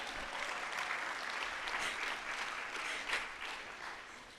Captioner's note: audience applauds